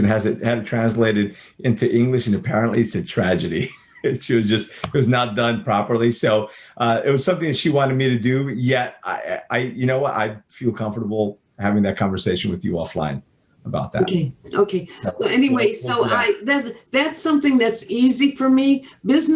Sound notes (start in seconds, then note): 3.4 chuckles